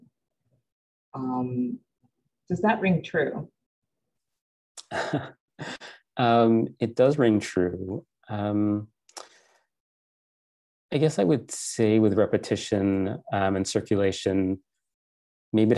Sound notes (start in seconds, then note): 4.8 chuckling